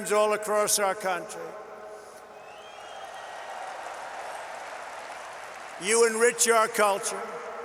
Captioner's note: applause